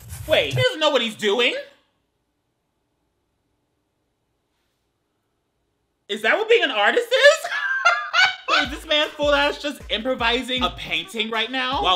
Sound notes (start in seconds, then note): 7.2 laughing